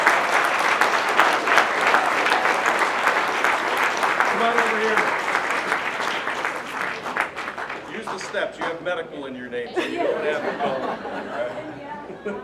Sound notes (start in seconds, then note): 0.0 applause; 9.7 laughter